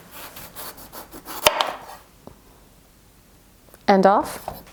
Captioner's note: knife hits cutting board; knife carves through squash